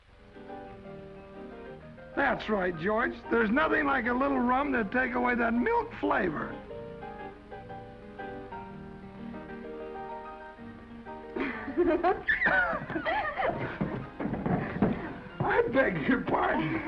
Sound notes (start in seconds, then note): 0.3 gentle music; 6.5 gentle music; 11.4 Esther laughs